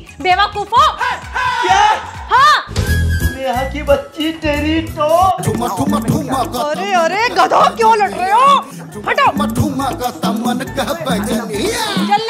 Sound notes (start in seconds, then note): 5.4 quarreling